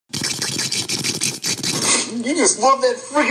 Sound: slurping

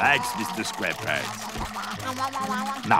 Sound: chomping

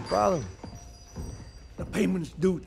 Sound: shop bell jingles

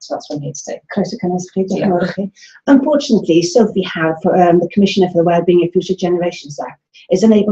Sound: dialogue in Welsh

